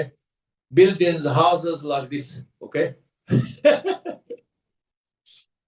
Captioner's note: laughs